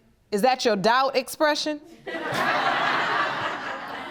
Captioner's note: audience laughing